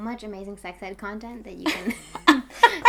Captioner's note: laughing